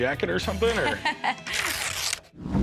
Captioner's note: laughs